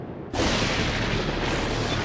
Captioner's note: lightning cracks